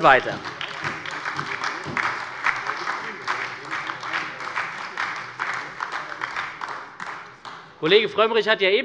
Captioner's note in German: Beifall bei der SPD und der LINKEN